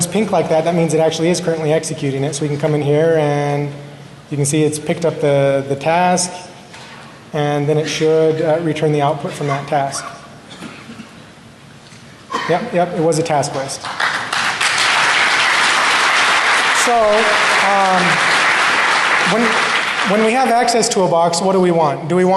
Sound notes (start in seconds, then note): 11.8 applause